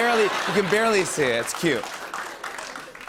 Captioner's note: laughter and applause